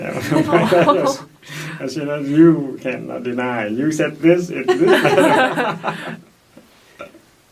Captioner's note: laughs; all laugh